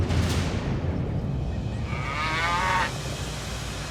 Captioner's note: steer moos